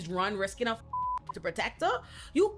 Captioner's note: beep